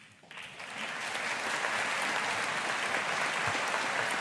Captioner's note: audience applauding